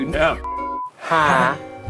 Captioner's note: test beeping